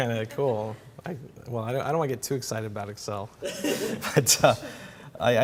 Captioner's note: laughter